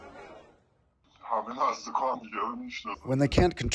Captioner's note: speaking foreign language offscreen